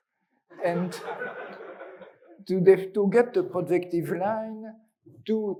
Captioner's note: students laugh